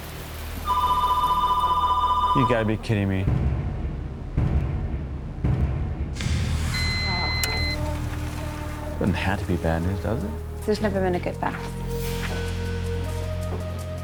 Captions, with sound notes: (phone ringing) - You gotta be kidding me. (phone beeping) It doesn't have to be bad news, does it? - There's never been a good fax.